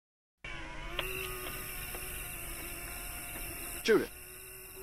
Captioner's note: machines buzzing